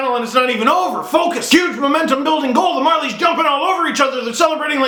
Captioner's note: extremely excited voice